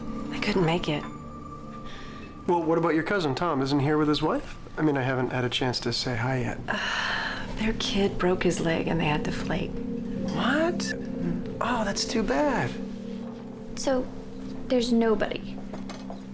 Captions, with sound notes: THEY COULDN'T MAKE IT. WELL, WHAT ABOUT YOUR COUSIN TOM? ISN'T HE HERE WITH HIS WIFE? I MEAN, I HAVEN'T HAD A CHANCE TO SAY HI YET. [SIGH] THEIR KID BROKE HIS LEG AND THEY HAD TO FLAKE. WHAT? OH, THAT'S TOO BAD. SO THERE'S NOBODY.